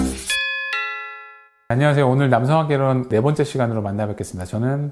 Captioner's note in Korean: 종소리